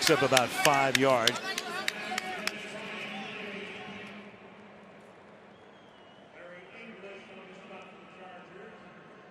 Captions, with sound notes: And he picks up about 5 yards. [pa announcement]